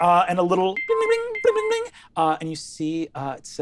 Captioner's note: imitates beeping sound